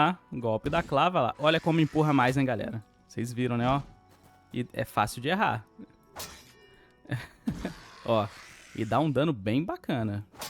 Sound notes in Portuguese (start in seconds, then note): 7.1 risadas